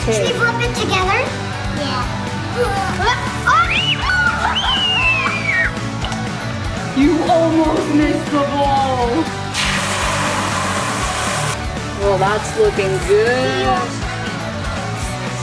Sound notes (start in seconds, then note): 3.4 shrieks; 9.4 scrambled eggs sizzle